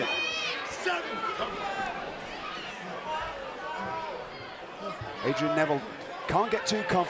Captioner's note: crowd chatter